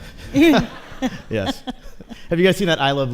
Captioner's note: laughter